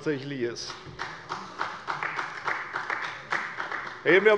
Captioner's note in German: Beifall bei der CDU